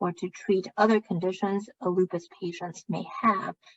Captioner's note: speaking chinese